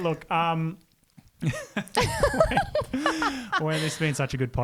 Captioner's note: laughing together